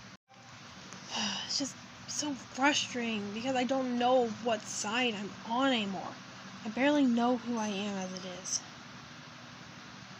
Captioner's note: sighs